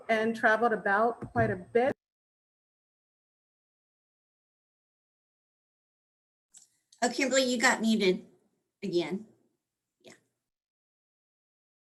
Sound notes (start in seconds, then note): 1.8 silence